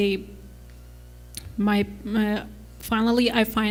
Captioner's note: stutters